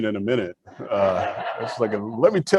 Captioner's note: audience laughs